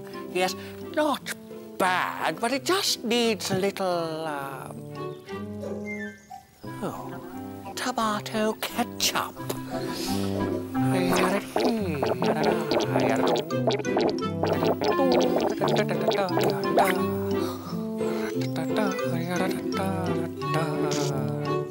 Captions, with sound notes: Yes, not bad, but it just needs a little... erm... Oh, tomato ketchup! [Mischievous humming...]